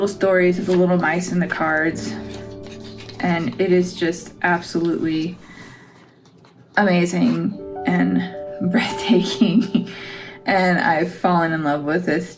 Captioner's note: laugh